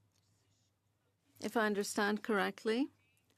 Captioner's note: speaking French